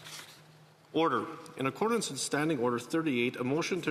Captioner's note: speaking French